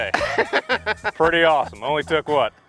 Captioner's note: laughter